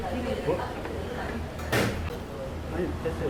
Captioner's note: none